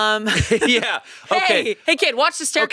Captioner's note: laughing